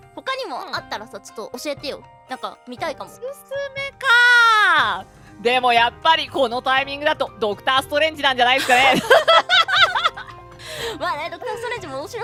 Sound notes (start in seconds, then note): 8.6 laughs